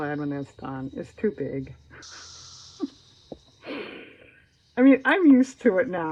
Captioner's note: laughs